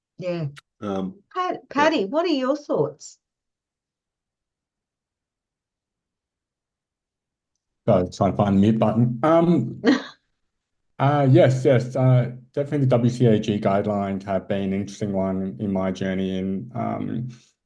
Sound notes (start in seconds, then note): 9.8 laughs